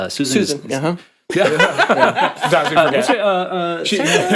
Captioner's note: all laughing